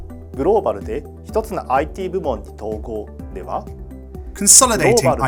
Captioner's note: speaks in Japanese